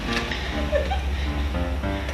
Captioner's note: giggles